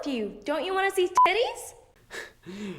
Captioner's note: beep